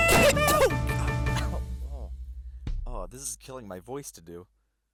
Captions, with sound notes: *Coughing* Oh, god. *Cough* Ow. Ow, this is killing my voice to do.